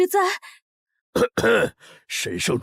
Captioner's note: cough